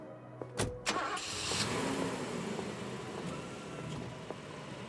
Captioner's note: engine starts